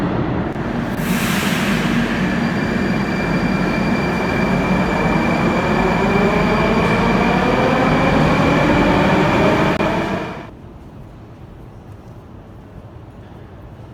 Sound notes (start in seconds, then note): 0.0 train leaves to next station